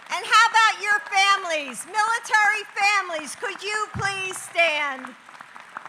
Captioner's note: applause